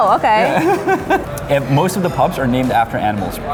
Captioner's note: laughing